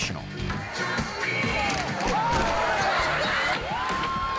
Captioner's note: group gasping